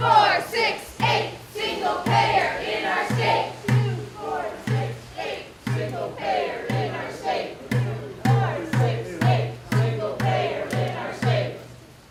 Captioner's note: crowd chanting